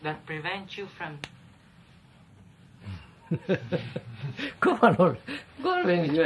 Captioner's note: laughs